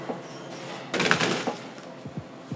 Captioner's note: bagels crashing into cardboard box